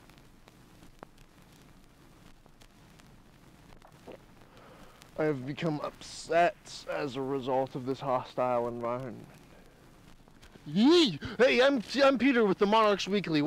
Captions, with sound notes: [gulp] I have become upset as a result of this hostile environment. Yee! Hey, I'm-- I'm Peter with The Monarch's Weekly,